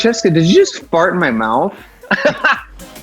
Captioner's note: laughs